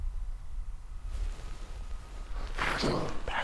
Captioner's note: elk bugling